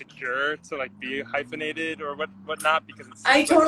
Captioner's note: laughs